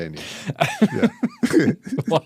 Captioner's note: laughing